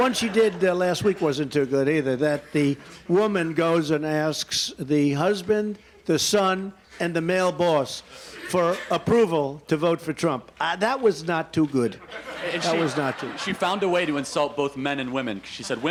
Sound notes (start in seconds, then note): 11.9 laughter